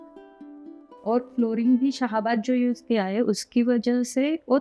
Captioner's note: in Hindi